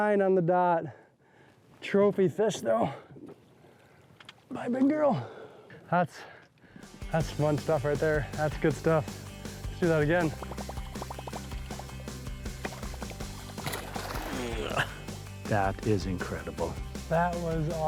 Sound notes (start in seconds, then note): 11.1 lure blooping water; 11.1 upbeat rock music; 14.5 fish splashes water